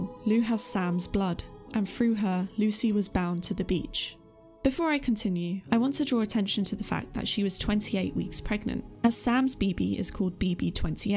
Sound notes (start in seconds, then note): none